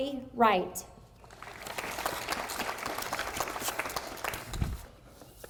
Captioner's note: audience applauding